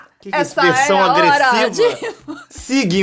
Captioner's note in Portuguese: risadas